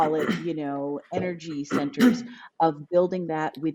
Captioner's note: clear his throat